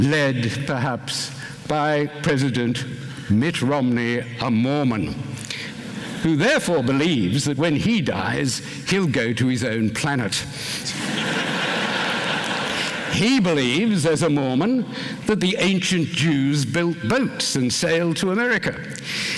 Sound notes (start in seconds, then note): 10.8 laughter